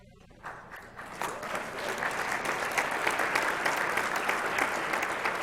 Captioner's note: applause